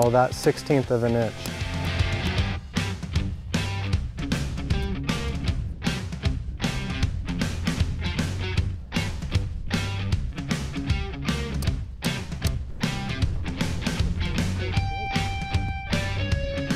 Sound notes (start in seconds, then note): 2.4 rock music continues; 11.7 banging